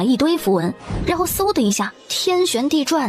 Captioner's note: whoosh!